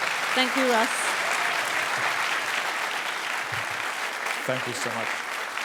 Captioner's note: applause